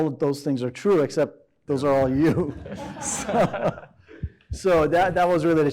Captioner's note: laughs